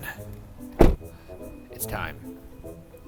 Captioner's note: door thuds